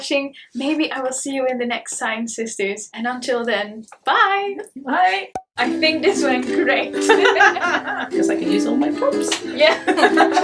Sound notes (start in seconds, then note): 5.6 soft guitar music; 7.0 both laugh